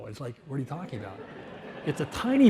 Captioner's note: audience laughs